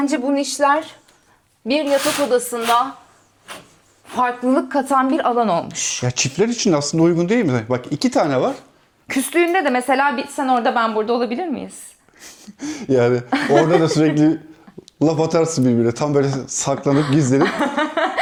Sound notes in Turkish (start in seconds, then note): 13.2 kahkaha